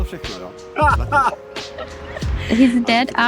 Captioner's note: laughing